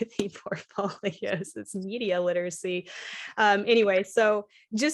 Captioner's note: laughter